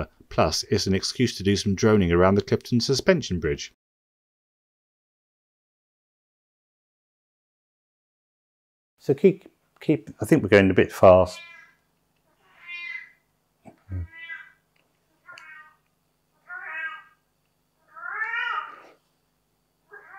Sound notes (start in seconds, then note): 8.8 cat Meeow's very loudly